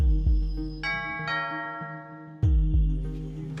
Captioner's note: doorbell